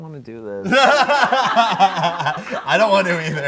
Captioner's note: everyone laughs